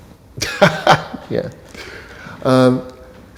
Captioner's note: laughs